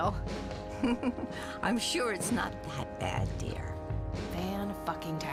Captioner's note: laughs